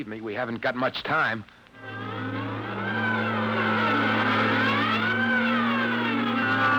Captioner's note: siren wailing